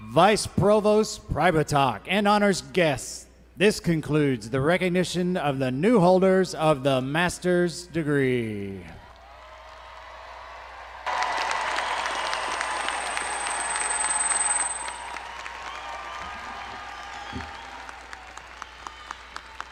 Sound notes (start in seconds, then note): 9.0 audience cheering; 9.1 all clapping